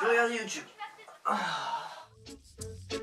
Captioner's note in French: soupir